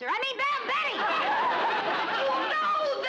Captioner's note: audience laughs